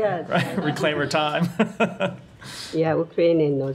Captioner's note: laughter